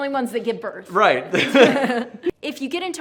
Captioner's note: laughs